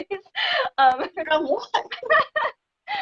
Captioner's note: laughing